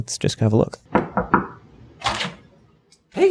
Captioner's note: knock on door